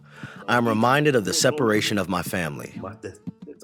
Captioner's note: through translator